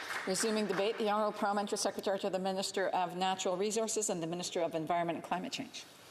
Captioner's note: some Applause